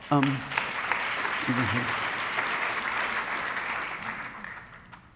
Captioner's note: audience applauding